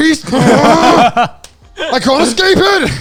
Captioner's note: grunting excitedly